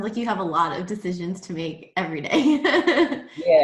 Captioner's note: laugh